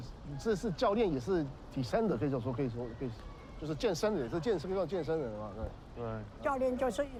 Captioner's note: dialogue in Chinese